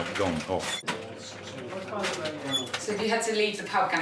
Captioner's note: people chattering